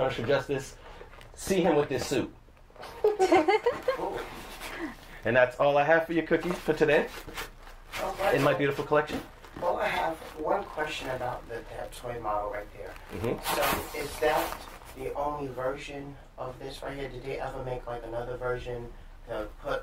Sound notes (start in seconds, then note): 2.8 laughter